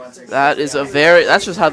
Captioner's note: indistinct chatter